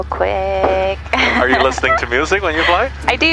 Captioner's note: laughing